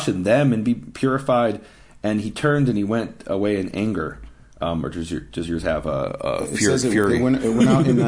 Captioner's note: laughing